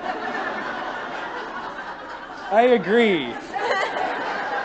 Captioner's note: laughter